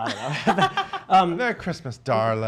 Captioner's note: laughs